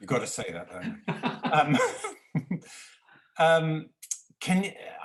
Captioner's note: laughing